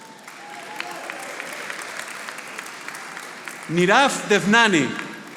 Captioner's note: audience applauding